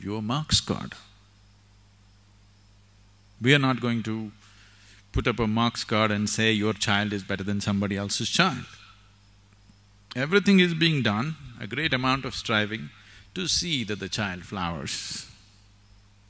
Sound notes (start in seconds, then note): none